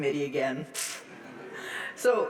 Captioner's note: audience laughs